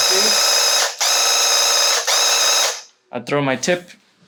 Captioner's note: paint gun blasting